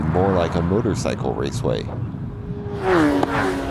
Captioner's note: racing cycle sounds